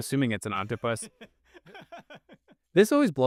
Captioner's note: laughing